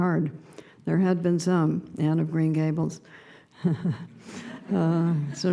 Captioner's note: laughing